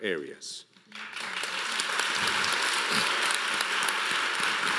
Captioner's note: audience applauding